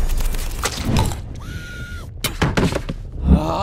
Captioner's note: muffled scream